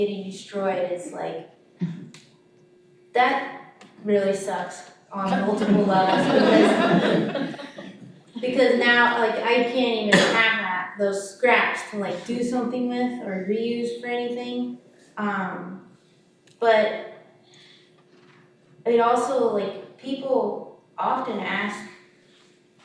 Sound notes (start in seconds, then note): 5.2 audience laughing